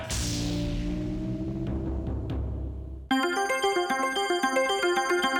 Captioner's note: squashing sound; upbeat music